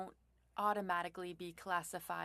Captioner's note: speaking French